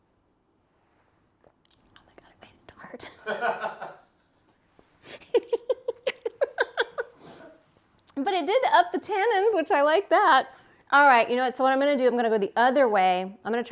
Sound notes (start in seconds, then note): 3.2 laughing